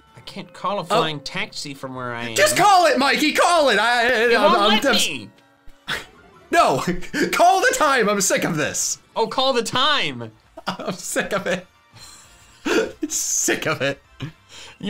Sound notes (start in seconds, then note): 12.7 laughs